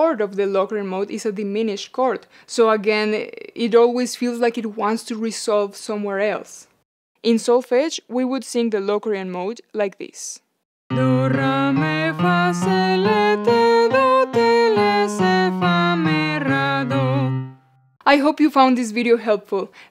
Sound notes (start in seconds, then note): 14.1 lowering in pitch